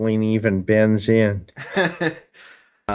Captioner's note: laugh